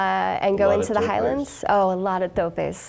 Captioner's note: chuckling